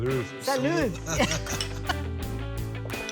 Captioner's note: giggling